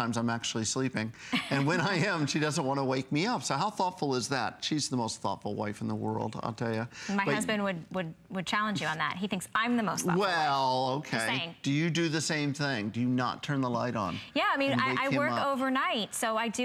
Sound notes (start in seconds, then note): 1.3 laughter